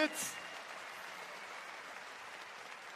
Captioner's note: applause